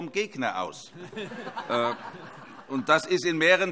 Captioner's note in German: Heiterkeit